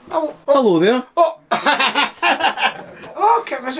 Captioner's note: man chuckles